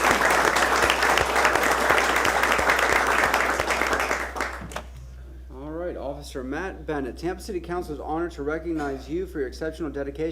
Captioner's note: applause